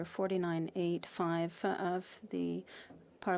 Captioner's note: speaking French